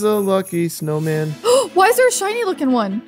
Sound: gasps

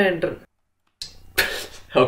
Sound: laughing

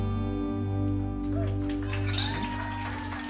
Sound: applause

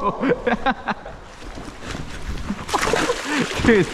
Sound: laughing

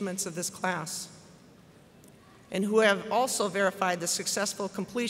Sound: none

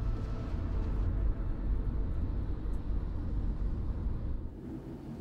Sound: car driving sounds

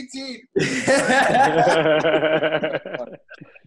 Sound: laughing

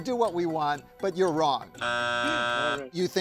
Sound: buzzer buzzing

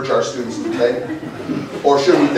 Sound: laughter

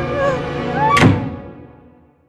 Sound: music intensifies; screams; door slams

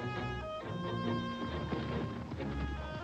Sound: hoofbeats departing

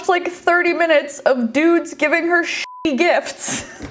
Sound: beep; laughs

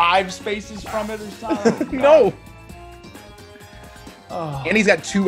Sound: laugh

